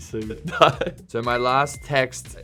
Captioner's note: laughing